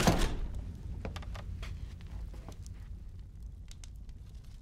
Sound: fire crackling

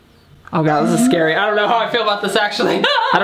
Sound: laughs

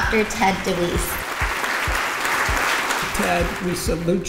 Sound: applause

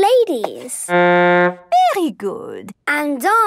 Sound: horn blowing

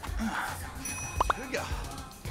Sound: text message ringing

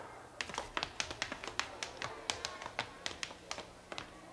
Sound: shoes tapping

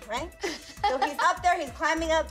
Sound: laughs

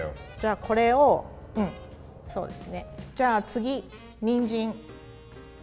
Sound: speaks in foreign language

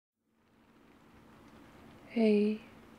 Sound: rain throughout

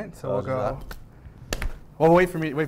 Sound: slapping

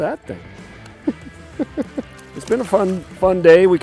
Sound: laughs

